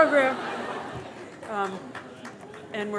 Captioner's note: laughs